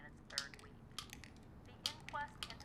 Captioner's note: tablets clicking